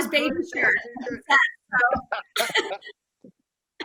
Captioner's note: laughing